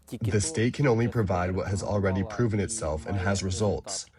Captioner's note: through translator